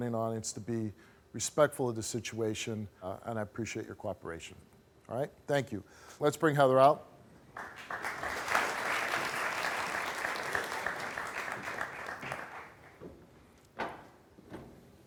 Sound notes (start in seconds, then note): 7.5 audience applauding